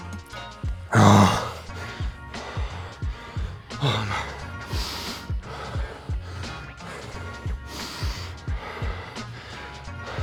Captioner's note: sounds of dying